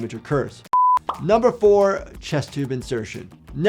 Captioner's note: beep